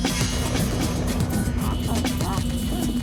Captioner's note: sound of thunder